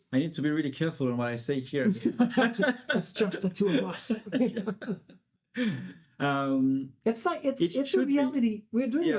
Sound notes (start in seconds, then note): 5.6 laughing